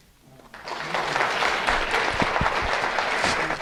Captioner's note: applause